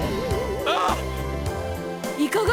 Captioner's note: groan